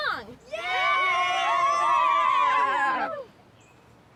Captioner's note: group cheering